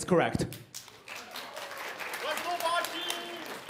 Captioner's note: applause